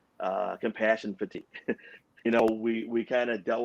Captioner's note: chuckles